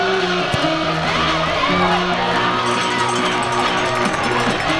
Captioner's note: crowd cheering; crowd applauding